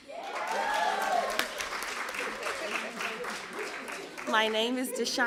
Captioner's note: applause